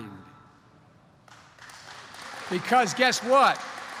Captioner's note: applause